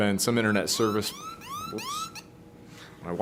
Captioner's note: alarm beeping